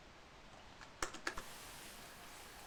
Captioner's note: typing